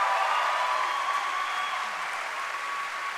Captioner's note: cheering and applause